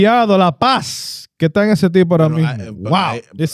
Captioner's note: speaking In Foreign Language